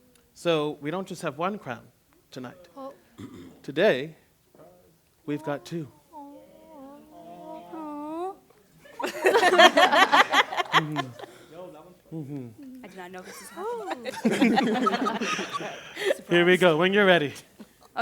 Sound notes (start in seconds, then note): 6.0 excited chatter, laughter; 13.2 laughter